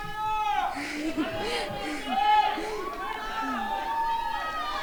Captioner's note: crowd shouting